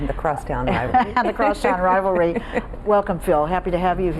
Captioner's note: laughs